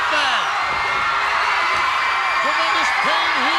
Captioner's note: audience cheering